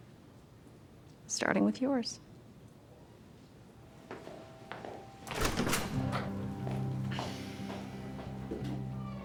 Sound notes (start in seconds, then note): 4.6 retreating footsteps; 5.2 door opens; 6.8 retreating footsteps